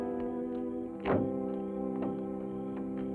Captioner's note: ominous music; car door closes; sentimental music